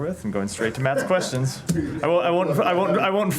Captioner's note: laughter